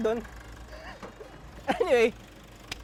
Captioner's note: chuckles